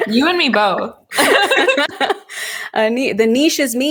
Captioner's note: both laughing